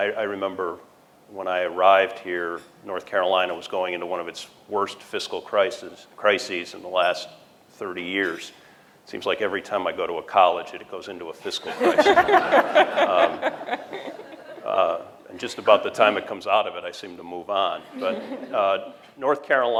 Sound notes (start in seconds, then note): 11.6 laughter